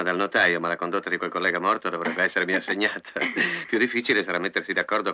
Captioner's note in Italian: risate